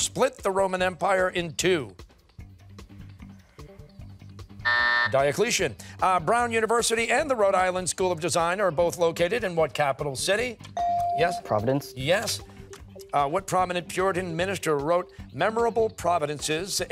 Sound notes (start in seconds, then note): 4.1 timer